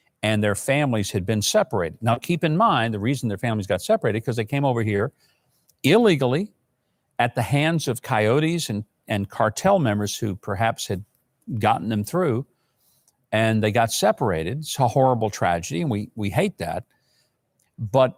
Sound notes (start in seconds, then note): none